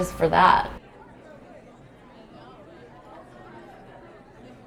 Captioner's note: people chattering